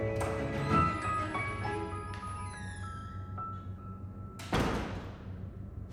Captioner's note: door opening and shutting